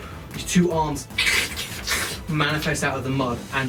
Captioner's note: squelching noises